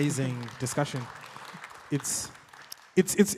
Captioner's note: audience clapping